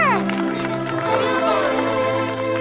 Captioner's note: people applauding